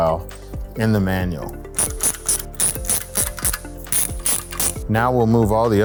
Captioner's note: ambient music; ratcheting